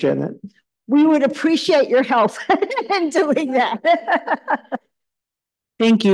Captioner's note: laughs